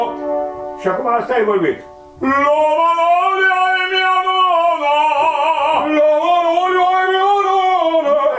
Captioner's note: vocalise: La manolia e mia nona